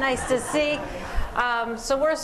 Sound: laughter

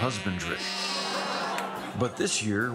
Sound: sheeps bleating

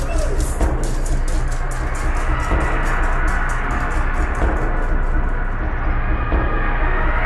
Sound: footsteps grow faint

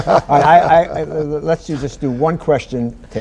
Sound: laughter

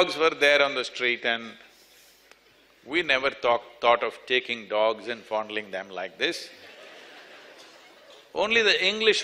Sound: laughter

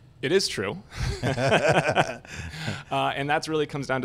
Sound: laughs

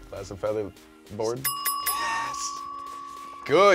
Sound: bell dings

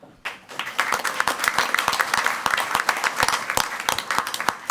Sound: crowd clapping

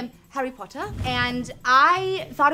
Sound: air whooshing

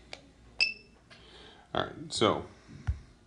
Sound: beeps

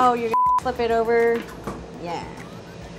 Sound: beep

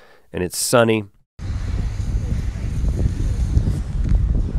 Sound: wind blowing

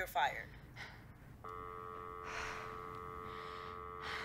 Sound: dial tone

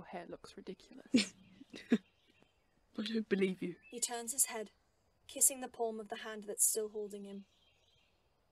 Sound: James laughs

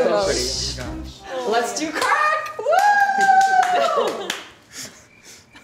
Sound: cheers; laughs; crickets chirp

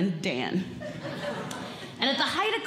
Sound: audience Laughing

